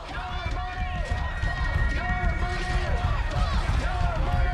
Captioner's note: crowd chanting